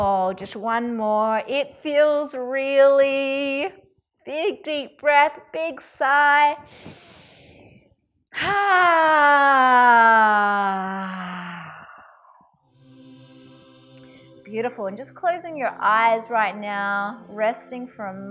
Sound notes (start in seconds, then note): 8.9 sighs; 12.7 gentle music